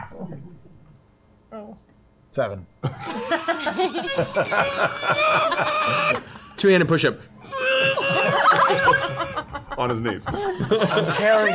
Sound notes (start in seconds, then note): 2.8 laughter; 7.5 grunts